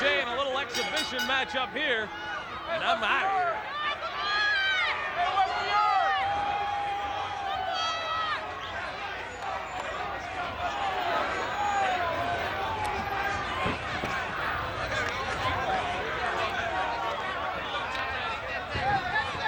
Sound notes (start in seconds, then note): 4.2 audience cheers